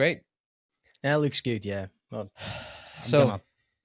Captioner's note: sighs